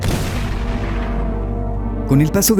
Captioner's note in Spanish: boom